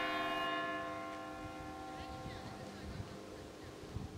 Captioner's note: bell dings